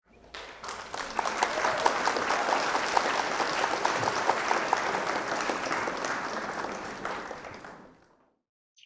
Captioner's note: applause